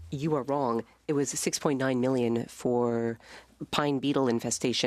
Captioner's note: speaking French